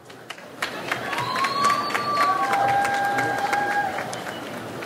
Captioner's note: audience applauds